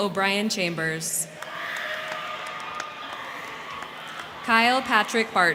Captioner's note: crowd cheering; crowd clapping